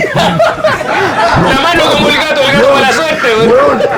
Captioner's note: laughs